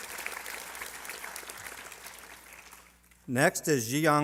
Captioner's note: applause